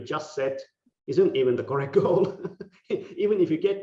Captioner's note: laughing